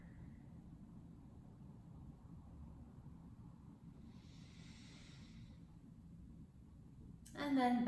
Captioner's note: breathing